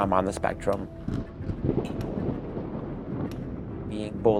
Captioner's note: thunder rumbling